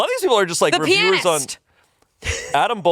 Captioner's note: laughs